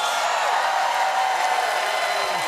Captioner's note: cheers and applause